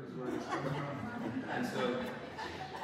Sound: audience laughs

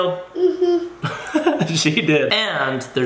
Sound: laughs

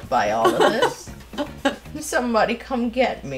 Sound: laughs softly

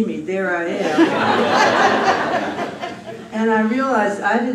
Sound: laughter

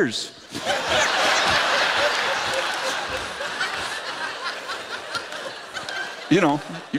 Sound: laughter

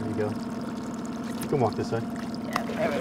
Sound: winch motor running

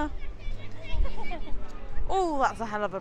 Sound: giggles

